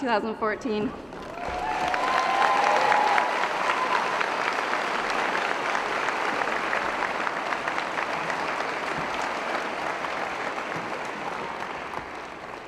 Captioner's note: cheering & Applause